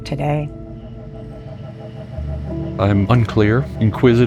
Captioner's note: motor spinning